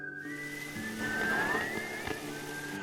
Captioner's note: sizzling